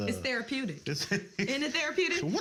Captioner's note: laughs